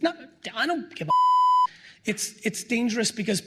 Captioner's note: beep